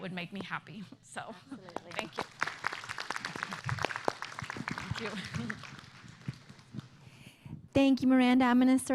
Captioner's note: applause